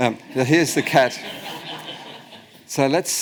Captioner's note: audience laughs